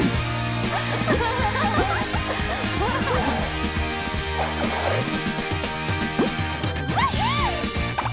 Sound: laughter

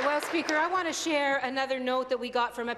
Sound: applause

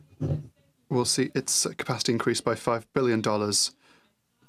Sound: speaking french

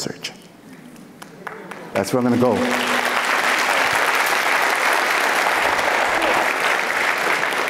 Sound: applauds; foreign speaking

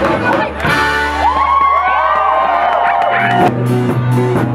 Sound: cheering

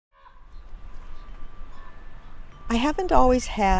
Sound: raven calling, wind chimes

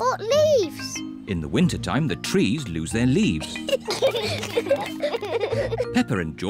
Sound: both giggle

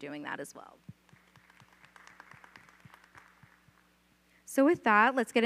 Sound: audience applauds

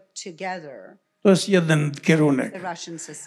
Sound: foreign language

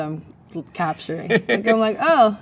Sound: man laughs

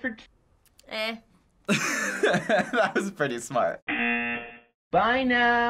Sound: buzzer

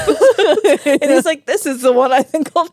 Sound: laugh

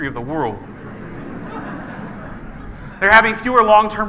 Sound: laughing

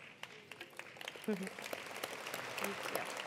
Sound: attendees applauding

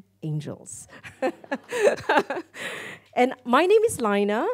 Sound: laughs

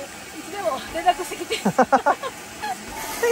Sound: laughs

